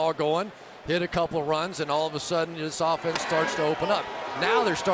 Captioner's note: crowd cheering